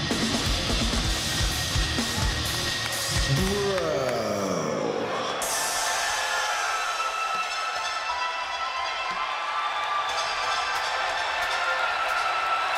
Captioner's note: crowd cheering